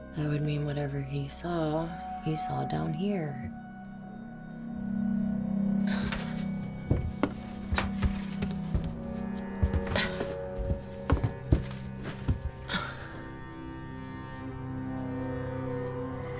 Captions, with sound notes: - That would mean whatever he saw, he saw down here. (suspenseful music) (Claire grunts) (suspenseful music)